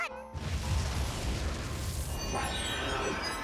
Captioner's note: boom!